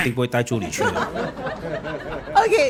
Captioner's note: laughs